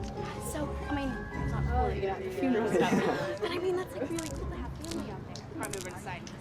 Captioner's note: chattering